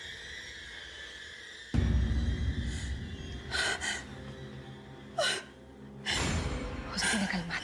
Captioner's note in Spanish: sollozos